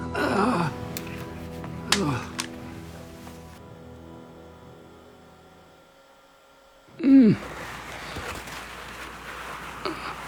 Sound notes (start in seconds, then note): 0.0 groaning; 7.0 grunting